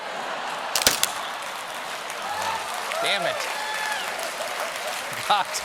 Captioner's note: laughter